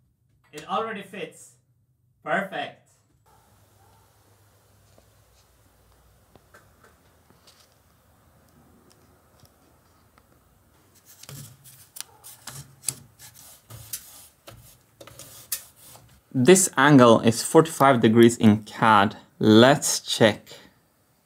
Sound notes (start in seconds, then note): 10.8 pencil strokes